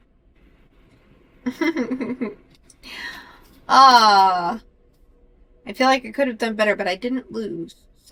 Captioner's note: laughs